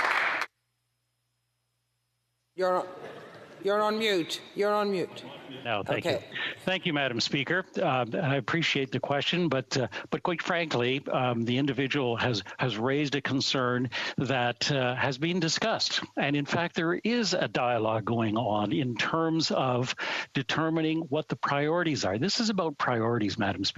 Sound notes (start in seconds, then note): 7.3 speaking french